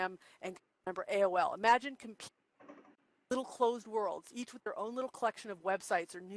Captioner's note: audio skips